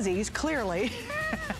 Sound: laughter

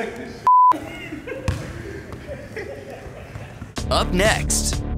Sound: laughs

